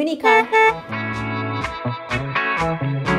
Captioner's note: car horn honking; upbeat music